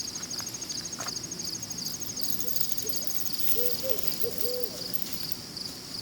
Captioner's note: crickets